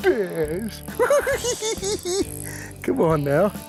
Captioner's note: giggling